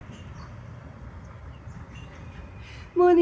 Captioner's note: bird song